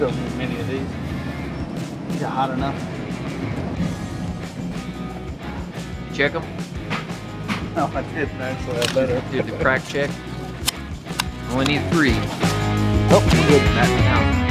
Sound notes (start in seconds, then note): 8.9 chuckles